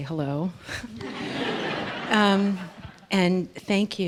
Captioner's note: laughter